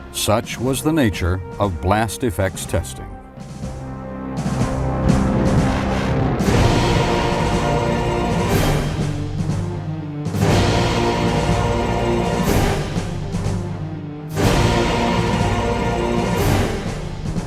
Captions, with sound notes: such was the nature of blast effects testing. (dark military music) (building exploding)